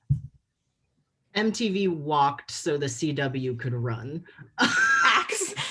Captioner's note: laughter